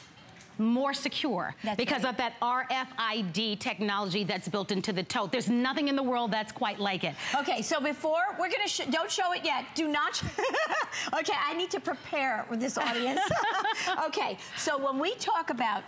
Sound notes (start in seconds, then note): 10.2 laughter; 12.8 laughter